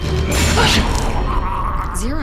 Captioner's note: gurgling